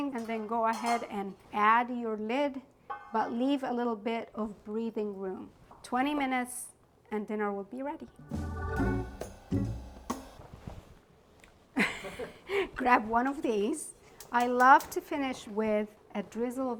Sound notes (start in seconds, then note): 8.1 gentle jazz music; 11.8 laughing